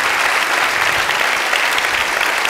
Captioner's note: applause